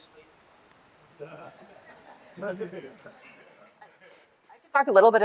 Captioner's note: laughter